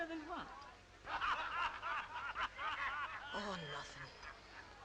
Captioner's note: Joe's group laughing